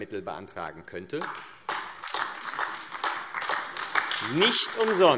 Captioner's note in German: Beifall AfD